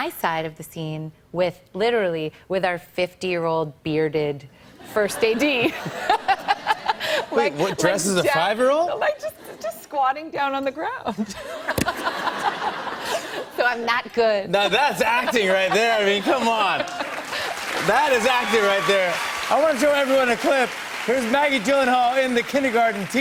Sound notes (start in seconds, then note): 4.9 laughter; 11.1 laughter; 16.5 cheers and applause